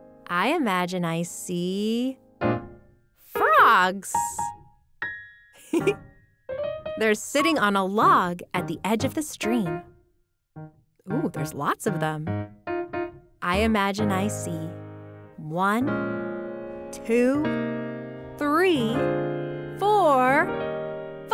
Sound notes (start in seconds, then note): 5.6 laughing